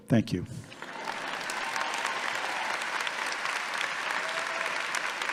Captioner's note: audience clapping